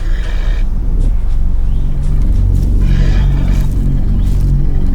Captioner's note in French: cris de loups